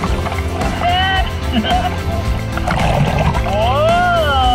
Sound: both laugh

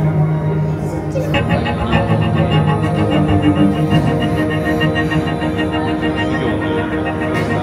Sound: vibrator

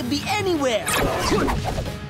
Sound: grunting

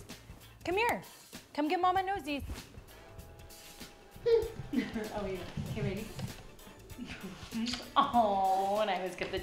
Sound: laugh

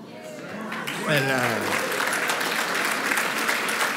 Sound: applause

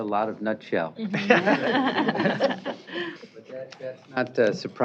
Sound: laughter

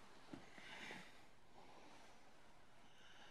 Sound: exhales

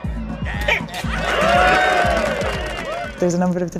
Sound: clapping

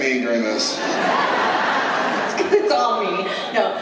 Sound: laughter

